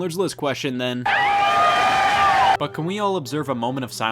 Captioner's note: screams